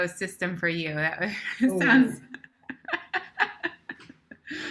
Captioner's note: laughter